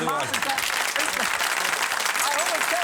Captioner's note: applause